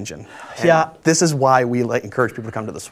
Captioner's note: sighs